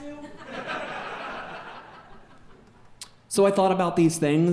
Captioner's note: audience laughing